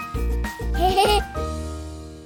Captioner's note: laughter